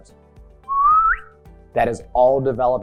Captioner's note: whistling